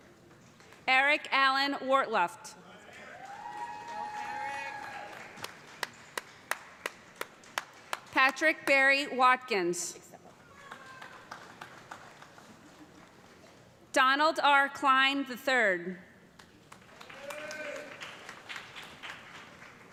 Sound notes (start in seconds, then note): 2.9 cheers and applause; 10.5 applause; 16.4 applause